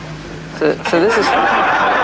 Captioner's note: laughter